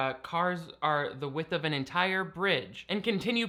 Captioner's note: none